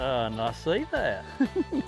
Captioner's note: laughing; upbeat country rock music